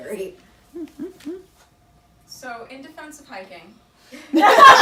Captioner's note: group laughter